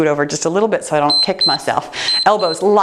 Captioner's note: timer beeps